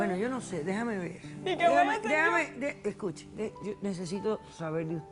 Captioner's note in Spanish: Sollozos